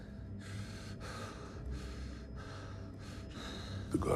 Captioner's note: pants